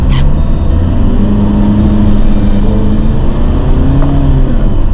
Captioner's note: car engine revving